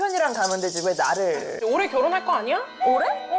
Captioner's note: wedding bells sound effect